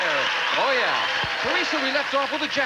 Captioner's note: audience applauding